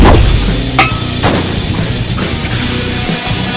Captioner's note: grenade Explodes